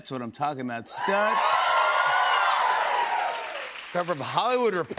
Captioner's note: cheers and applause